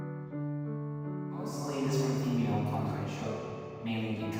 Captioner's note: echo